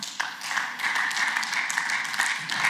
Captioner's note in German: Beifall